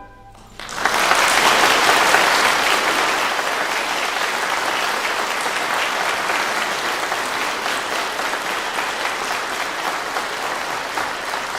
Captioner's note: clapping